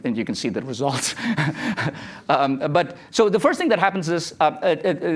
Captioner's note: laughs